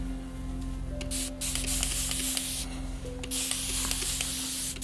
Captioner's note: bottle spraying continues